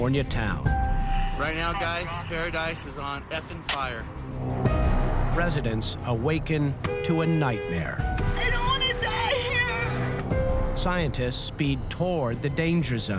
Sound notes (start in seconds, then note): 8.2 crying